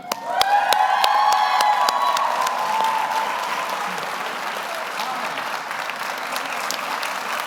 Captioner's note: audience applauds; audience cheers